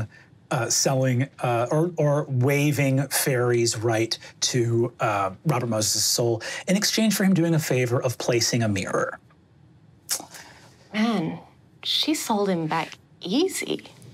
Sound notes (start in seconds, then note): none